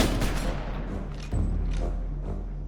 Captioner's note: gun bangs; suspenseful music